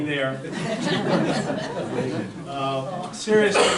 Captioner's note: audience laughter